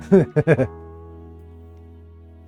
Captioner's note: laughs